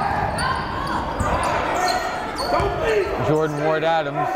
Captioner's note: yelling